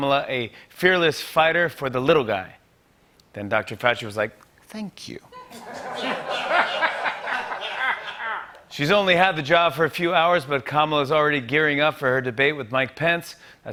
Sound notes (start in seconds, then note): 5.3 laughter